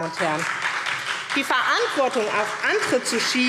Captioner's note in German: Beifall SPD